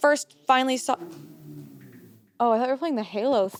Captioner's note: motorcycle whirring